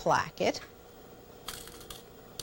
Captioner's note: rattling of fabric pins